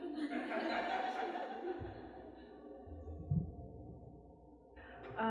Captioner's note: laughter from the audience